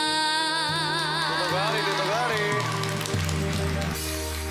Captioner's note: audience cheers